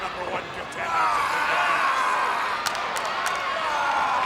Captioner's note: wrestlers grunting; hands clapping; crowd cheering